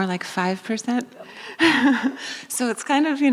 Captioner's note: laughing